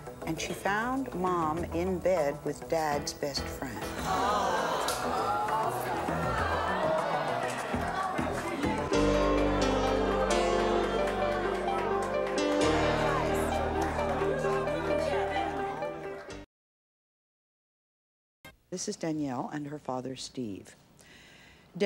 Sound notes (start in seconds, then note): 4.0 audience clamors; 9.1 dramatic music